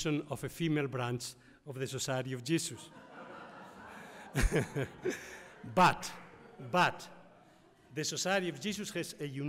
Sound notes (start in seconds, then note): 2.7 audience laughs